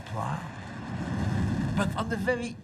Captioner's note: jet engine roaring